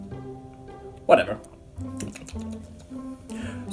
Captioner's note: lip smacking noises